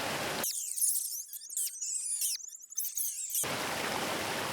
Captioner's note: squeaks